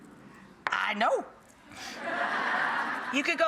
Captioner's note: audience laughing